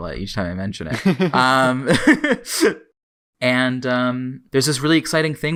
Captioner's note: laughs